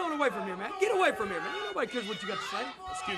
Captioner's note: crowd chatter